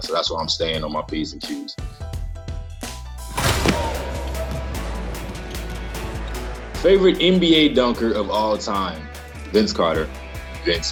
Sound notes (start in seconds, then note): 3.3 ball slamming; 3.4 rap music